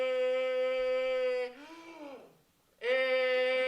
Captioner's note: inhales